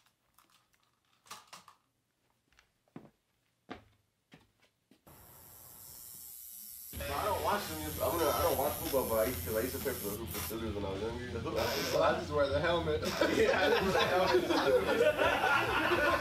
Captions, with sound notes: (electric razor buzzing) - I don't watch football, but I used to play for Pursuers when I was younger. So I just wear the helmet. (men laugh)